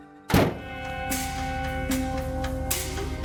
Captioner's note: truck door slams; quirky music